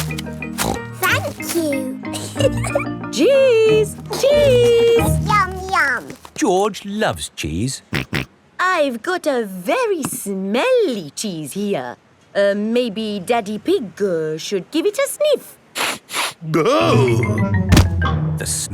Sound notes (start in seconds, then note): 0.0 snorts; 2.1 giggles; 8.4 snorts; 15.9 sniffs and groans